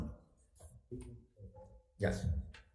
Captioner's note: member speaking faintly